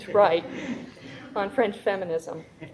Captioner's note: audience laughing